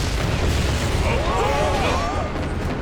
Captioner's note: screaming